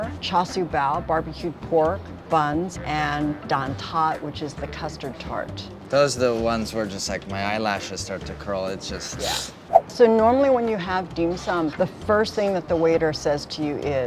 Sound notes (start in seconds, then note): 9.2 hisses